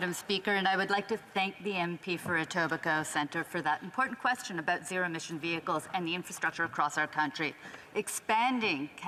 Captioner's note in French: voix de l'interprète